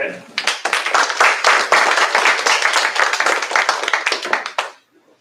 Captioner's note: applause